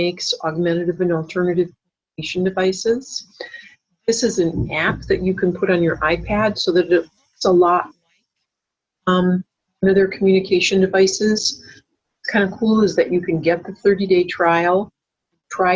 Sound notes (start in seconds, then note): 7.4 voice cuts in and out